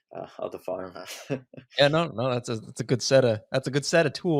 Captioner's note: laughs